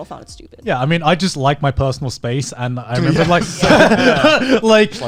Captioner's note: laughing